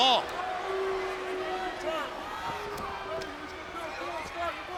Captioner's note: crowd yelling